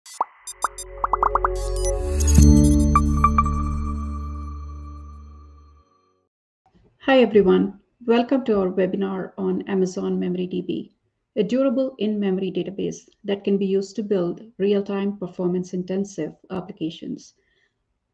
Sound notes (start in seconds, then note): 0.0 graphics popping; 0.0 energetic electronic music